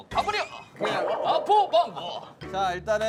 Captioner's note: kekeke